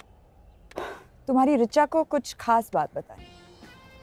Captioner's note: Sighs